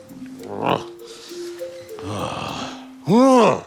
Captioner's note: grunts and sighs